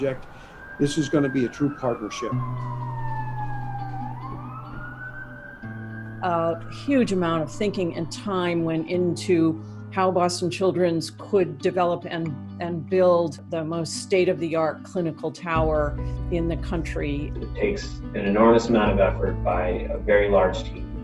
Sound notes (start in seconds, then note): 2.6 ambulance siren wails